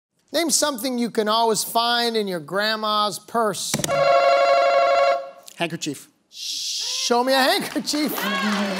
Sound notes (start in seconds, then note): 3.9 answer button rings